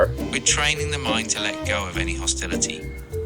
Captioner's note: head Space Voice